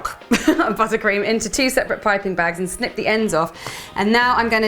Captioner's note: laughter